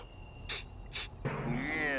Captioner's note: sniffing